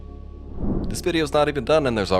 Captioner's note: air whooshes